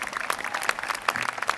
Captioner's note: applause